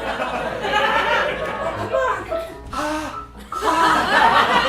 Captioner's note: breathing